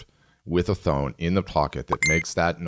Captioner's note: alarm chimes